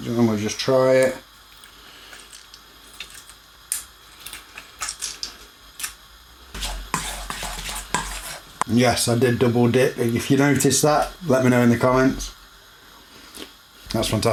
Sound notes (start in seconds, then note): 2.7 squeezing lemon